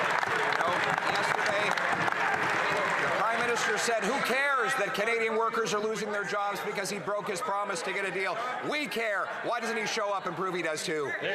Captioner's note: some Applause